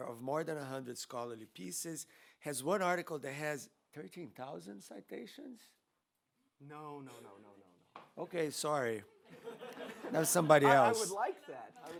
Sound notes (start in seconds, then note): 9.3 audience laughs